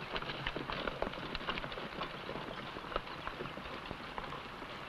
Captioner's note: horse hooves pattering